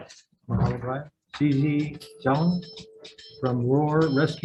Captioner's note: phone ringing